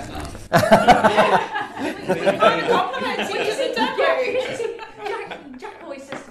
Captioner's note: laughter and crosstalk